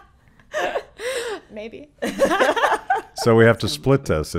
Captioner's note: laughing